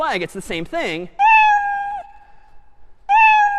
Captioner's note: meowing